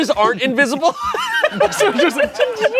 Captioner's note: everyone laughs